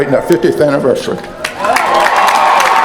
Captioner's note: applause